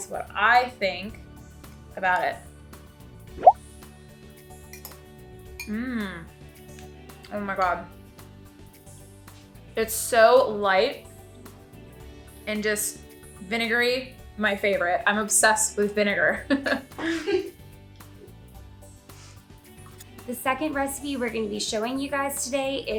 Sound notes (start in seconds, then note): 17.0 laughs